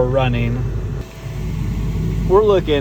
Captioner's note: air conditioning humming